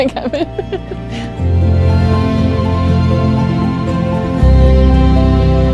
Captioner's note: laughs